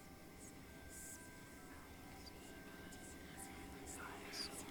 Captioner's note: eerie whispering